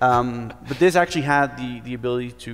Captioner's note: laughs